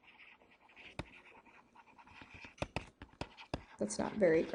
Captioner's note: chalk scratching on chalk board